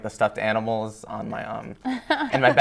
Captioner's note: laughter